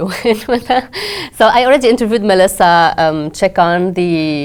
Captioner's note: laugh